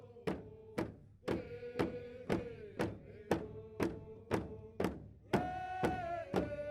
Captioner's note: chanting; drums beating